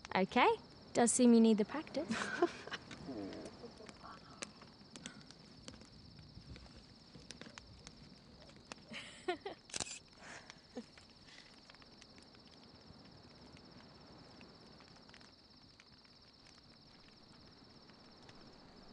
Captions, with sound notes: - Okay, does seem you need to practice. (crickets chirping) (fire crackling)